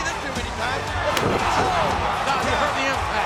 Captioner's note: bodies thud; kick thuds